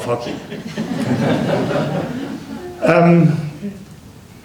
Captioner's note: laughter